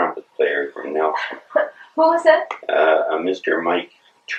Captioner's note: laughs